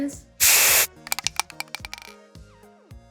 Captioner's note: spray paint can rattles; spray paint can whizzes